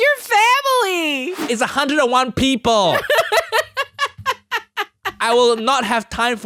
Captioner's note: laughing